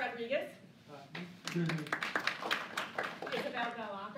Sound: applause

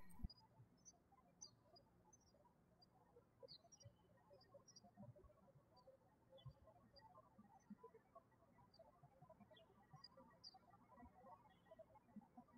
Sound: birds chirping

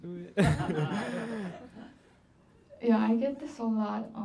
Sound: laughing

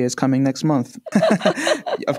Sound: laughter

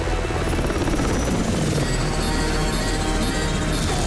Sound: beeping

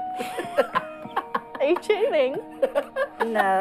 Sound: laughter

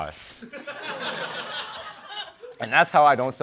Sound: laughter

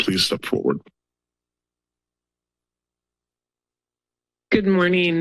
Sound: silence

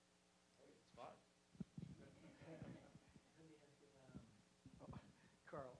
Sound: audience chuckling

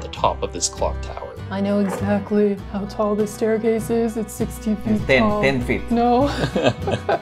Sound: laughter

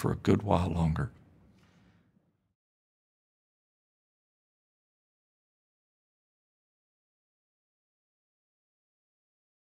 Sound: silence

